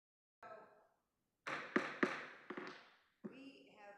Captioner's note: gavel banging